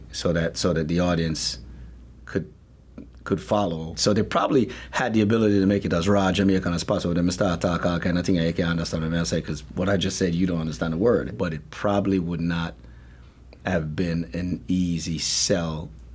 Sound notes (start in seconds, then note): 7.7 speaking Jamaican Patois